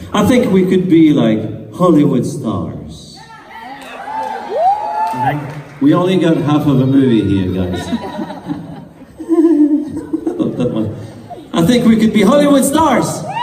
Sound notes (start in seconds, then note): 4.0 crowd